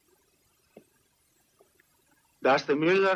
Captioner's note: none